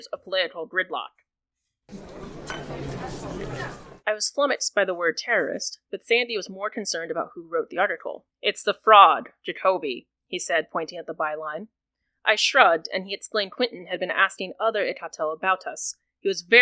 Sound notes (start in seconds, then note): 1.8 ambient bar sounds